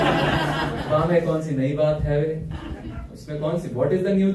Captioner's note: laughter